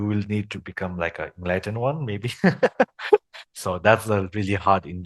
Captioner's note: laughters